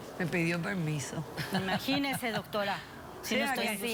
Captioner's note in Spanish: risas